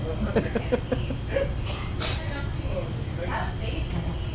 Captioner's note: laughter